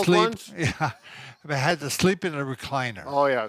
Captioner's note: laughs